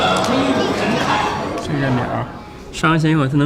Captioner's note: chattering of visitors